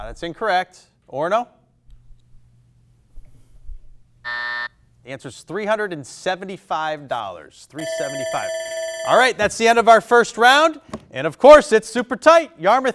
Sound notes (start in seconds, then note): 4.2 buzzer blares; 7.8 alarm blares